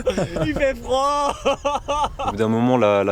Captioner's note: laughs